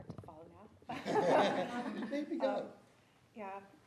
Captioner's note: audience laughs